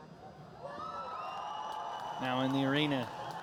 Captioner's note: cheers and applause